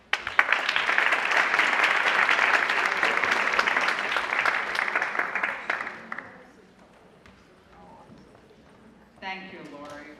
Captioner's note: applause